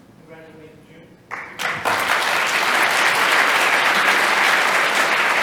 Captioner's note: applause